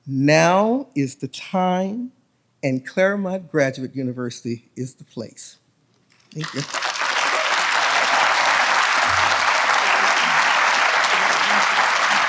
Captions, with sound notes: Now is the time, and Claremont Graduate University is the place. Thank you. (audience applauds)